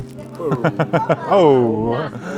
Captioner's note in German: lachend